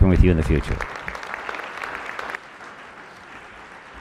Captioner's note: applause